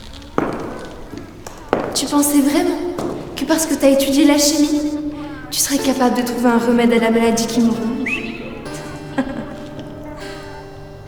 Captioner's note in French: rire sardonique